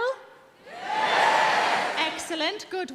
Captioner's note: audience shouting